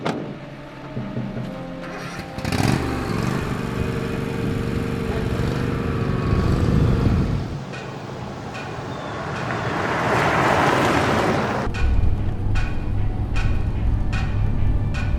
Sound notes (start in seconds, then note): 0.0 truck door slams; 1.6 suspenseful music; 1.8 mower engine starts; 8.2 suspenseful music; 10.1 truck engine whirring; 11.6 suspenseful music